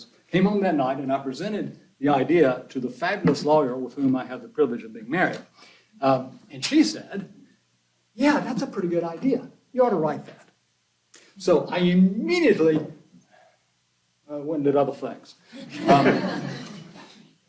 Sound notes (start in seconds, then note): 15.6 laughter